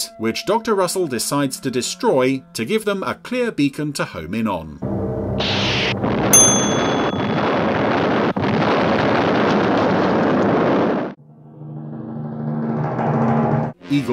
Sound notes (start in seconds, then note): 6.3 bell dings; 7.1 loud explosion; 11.1 intense music